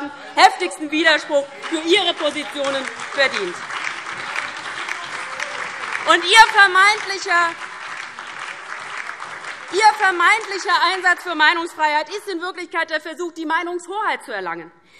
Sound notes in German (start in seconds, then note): 3.6 Beifall DIE LINKE, BÜNDNIS 90/DIE GRÜNEN und SPD - Zurufe AfD